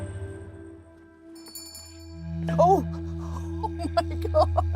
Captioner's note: bell jingles; laughing